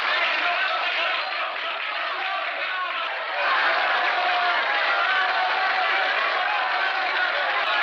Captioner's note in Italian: applaudono